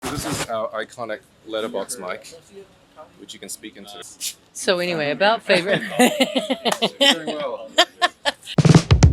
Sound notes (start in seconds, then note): 5.7 laughing; 7.7 Zoe laughs